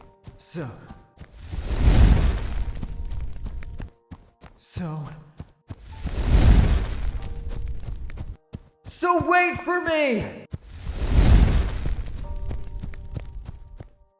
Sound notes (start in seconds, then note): 1.3 brief crackle of flames; 5.8 brief crackles of flames; 10.6 brief crackles of flames